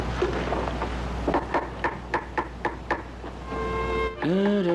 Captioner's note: chopping Sound; humming